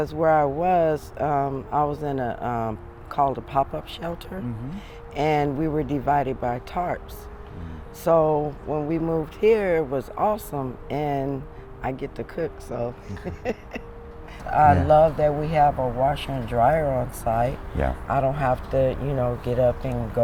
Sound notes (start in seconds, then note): 13.0 laughs